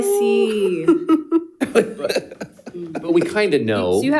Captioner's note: all chuckling